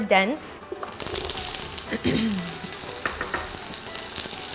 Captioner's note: oil sizzling